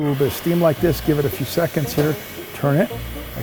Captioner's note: steam hissing